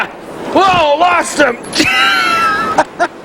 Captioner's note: water splashing